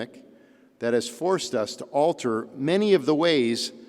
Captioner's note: none